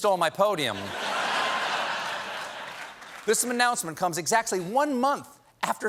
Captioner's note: laughter